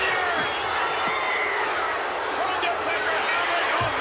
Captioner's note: crowd booing